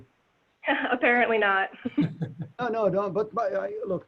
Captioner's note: chuckles